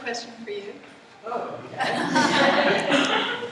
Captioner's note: laughter